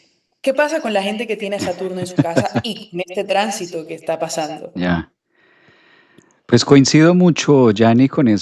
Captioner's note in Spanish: risas